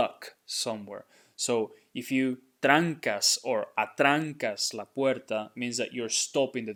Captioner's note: speaking in Spanish